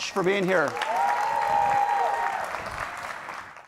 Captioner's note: cheering